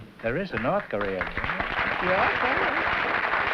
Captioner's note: applause